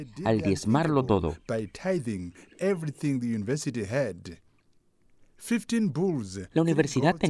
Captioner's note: Hablando otro idioma